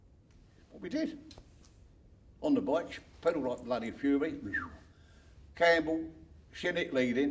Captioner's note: whistles